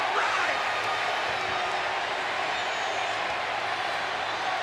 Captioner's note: crowd boos